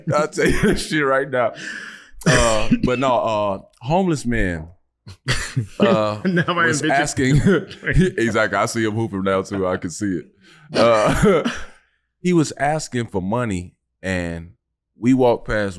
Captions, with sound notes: I'll tell you that shit right now. But no, a homeless man... (Kwame laughing) Was asking... (chuckles) Exactly. I see him hooping now too. I can see it. (chuckles) He was asking for money and we walked past,